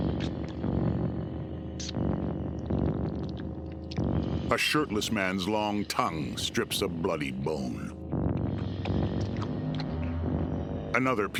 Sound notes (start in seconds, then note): 0.1 otherworldly music; 5.5 retching and chomping